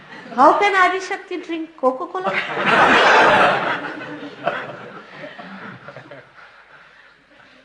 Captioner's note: laughter